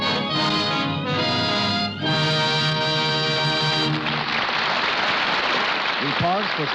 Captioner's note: applause